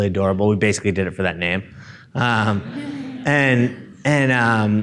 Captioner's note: audience laughing